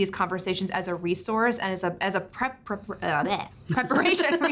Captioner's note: stutters; laughs